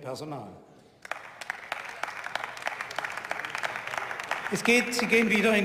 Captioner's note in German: Beifall